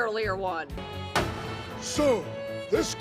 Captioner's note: gavel slam